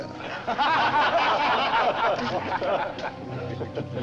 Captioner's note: laughter